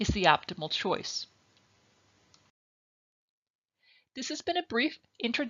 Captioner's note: silence